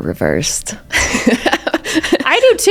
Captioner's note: both laughing